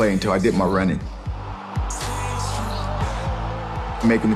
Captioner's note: crowd cheering